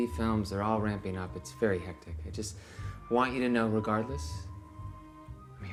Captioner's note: Michael blowing; ominous orchestral music